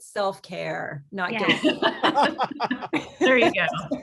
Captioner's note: laughing